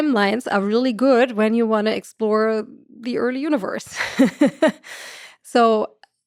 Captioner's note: laughs